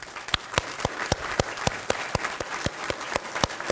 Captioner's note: applause